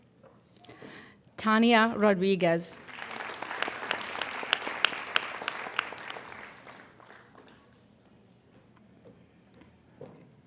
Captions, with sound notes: Tania Rodriguez. (applauding)